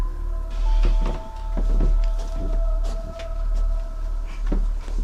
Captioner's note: footsteps thudding